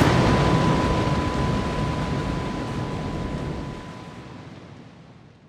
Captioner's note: fish falling; waterfall fading